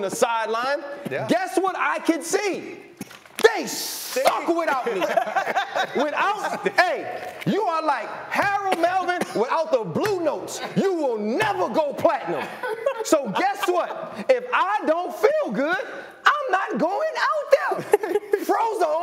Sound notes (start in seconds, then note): 10.5 laughter